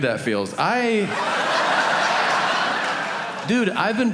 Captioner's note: audience laughing